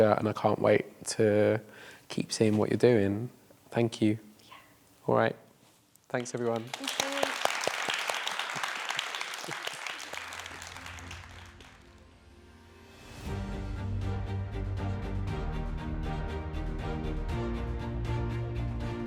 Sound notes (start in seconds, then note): 8.1 applause